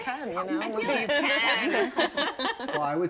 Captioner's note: everyone laughing